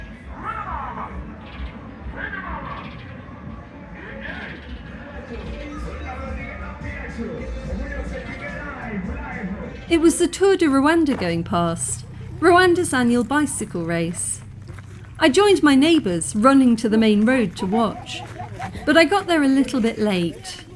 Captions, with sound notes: [loud shouting in Kinyarwanda] [shouting and music] It was the Tour du Rwanda going past, Rwanda's annual bicycle race. i joined my neighbors running to the main road to watch, but I got there a little bit late.